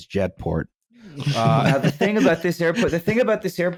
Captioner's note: laughter